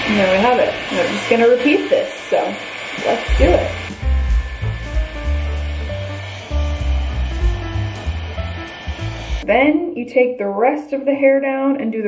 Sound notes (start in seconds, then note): 3.2 gentle music; 4.0 blow dryer whines